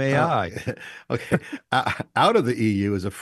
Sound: laughing

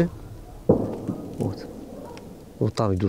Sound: echo of an explosion in the background

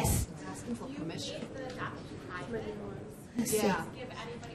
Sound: voiceover

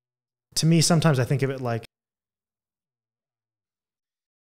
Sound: long pause

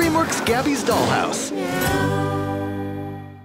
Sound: meow

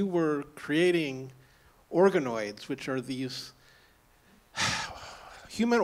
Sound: sighs

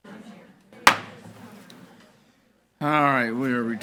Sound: gavel thudding

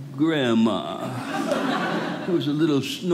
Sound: audience laughing

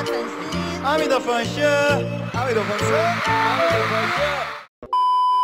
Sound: imitates a translator

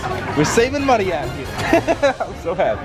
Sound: laughs

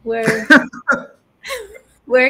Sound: laughter

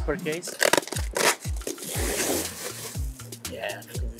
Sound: tape creaks

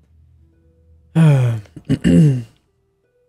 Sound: groan; clears throat

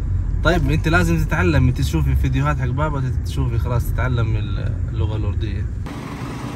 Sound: talking in Arabic

